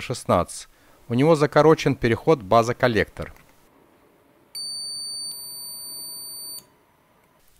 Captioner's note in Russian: звучит сигнал мультиметра